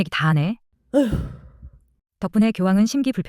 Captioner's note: deep sigh